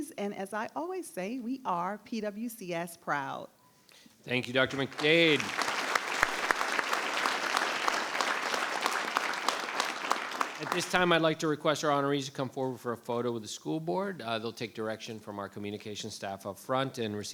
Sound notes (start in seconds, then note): 4.3 audience applauds